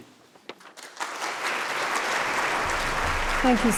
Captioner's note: applause